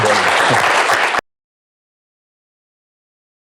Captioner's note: applause